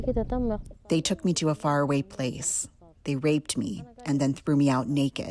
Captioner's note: through translator